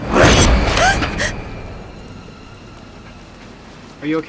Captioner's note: tense music; Mindy gasping